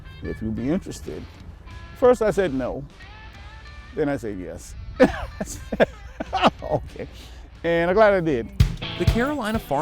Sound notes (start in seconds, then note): 5.0 laughs; 8.4 upbeat music